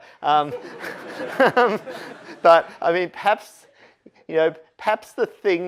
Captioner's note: laughter